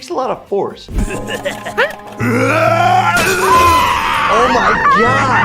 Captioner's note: Flippy cackling